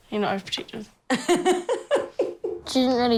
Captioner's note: laughs